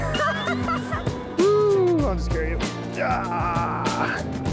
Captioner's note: hoots; grunts